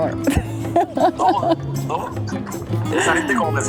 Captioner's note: laughs